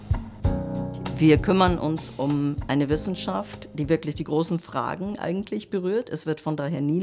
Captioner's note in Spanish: en alemán